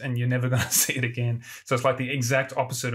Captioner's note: laughs